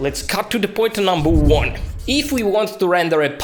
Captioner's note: air whooshing